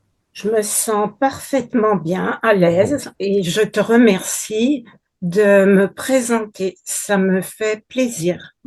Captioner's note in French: grognement